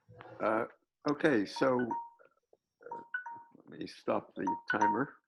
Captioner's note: alarm ringing